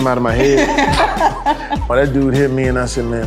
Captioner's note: Cameron laughing